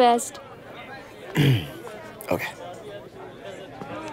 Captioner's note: Clears throat